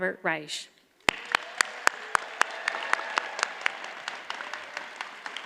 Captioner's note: audience applauds